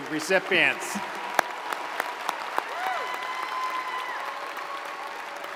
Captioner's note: audience cheers and applauds